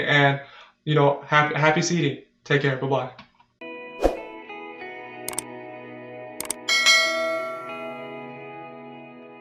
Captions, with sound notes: and, you know, happy seeding. Take care, buh-bye. (ambient music) (clicking and bell noise)